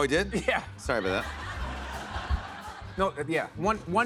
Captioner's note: laughter